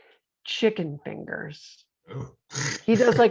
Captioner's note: chuckles